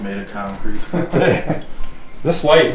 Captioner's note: laughing